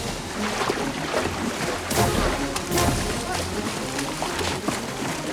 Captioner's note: shouting